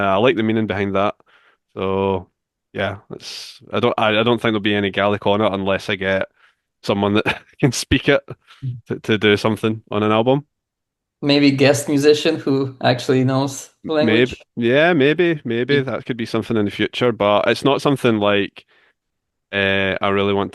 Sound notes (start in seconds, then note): 7.1 chuckles